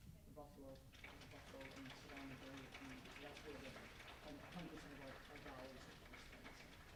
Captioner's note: applauding drowns out speaking